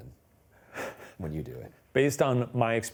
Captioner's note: laughing